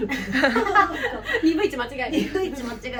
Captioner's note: laughs